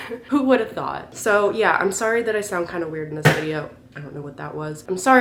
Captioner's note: thud